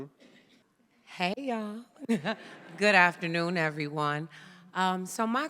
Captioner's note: laughs